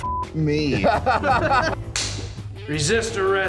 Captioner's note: laughter